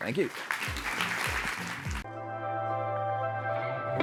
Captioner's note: applause